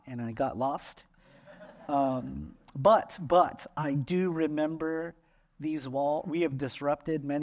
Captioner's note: laughter